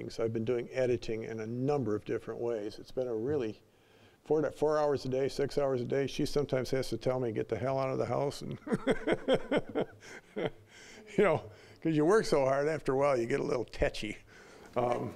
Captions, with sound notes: I've been doing editing in a number of different ways. It's been a really-- four hours a day, six hours a day. She sometimes has to tell me, "Get the hell out of the house and..." (laughing) You know, 'cause you work so hard, after a while, you get a little touchy.